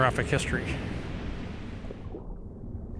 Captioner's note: deep, gurgling water